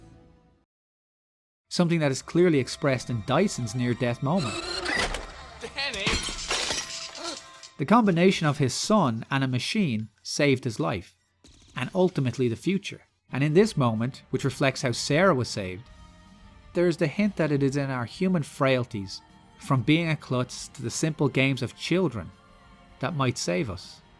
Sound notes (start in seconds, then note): 4.0 toy truck revving; 5.7 breaking glass; 6.8 gunshot